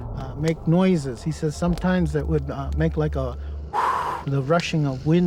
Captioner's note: exhaling